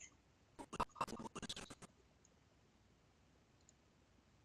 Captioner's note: audio skipping